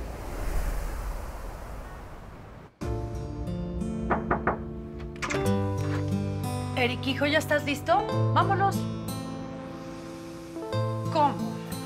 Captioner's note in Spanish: Llaman a la puerta